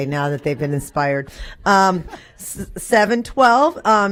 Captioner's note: laughter